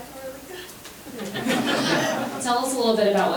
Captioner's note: members laughing